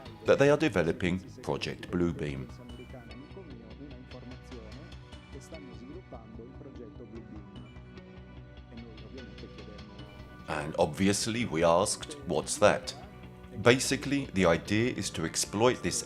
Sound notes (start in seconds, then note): 3.0 speaking in foreign language; 3.0 upbeat music continues